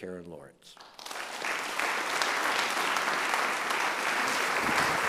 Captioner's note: audience applauds